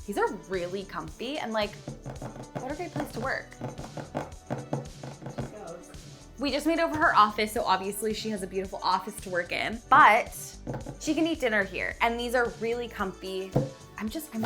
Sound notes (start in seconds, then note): 3.5 fingernails tapping